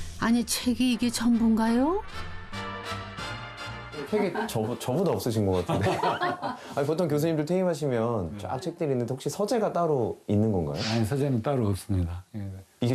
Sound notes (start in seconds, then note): 5.6 hahahahaha